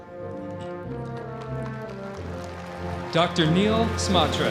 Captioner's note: audience applauding